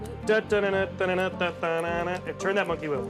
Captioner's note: imitates circus music